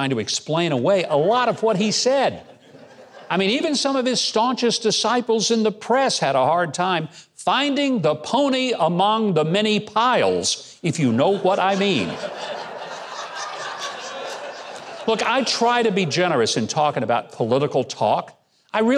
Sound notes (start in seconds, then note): 2.3 audience laughing; 11.0 audience laughing